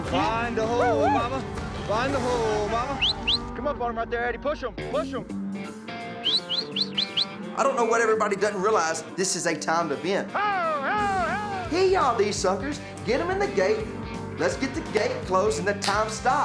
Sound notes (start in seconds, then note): 3.3 whistling